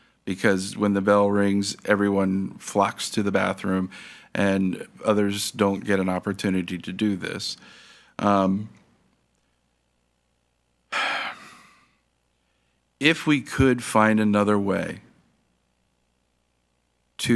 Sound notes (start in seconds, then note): 10.9 sighs